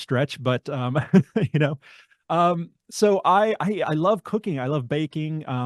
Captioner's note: laughs